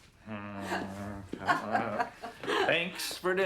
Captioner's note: marilyn laughs